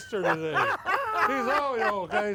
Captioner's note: all laugh